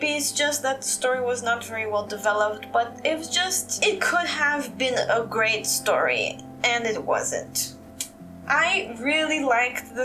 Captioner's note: tsk